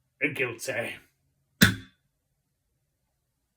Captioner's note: gavel